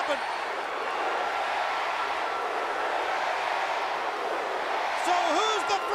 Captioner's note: crowd cheering